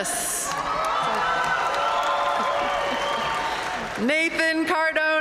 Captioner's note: audience cheering and applauding